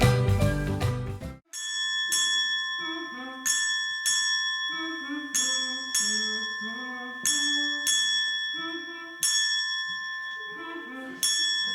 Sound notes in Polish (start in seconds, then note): 1.8 dźwięk dzwonków